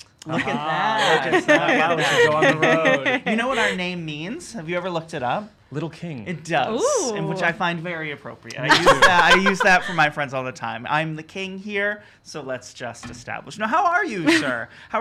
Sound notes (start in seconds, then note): 8.6 laughing